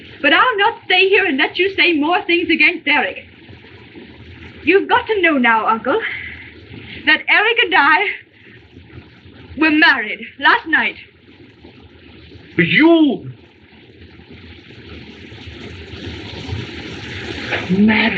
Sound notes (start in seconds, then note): none